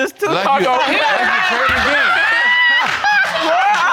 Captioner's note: all laughing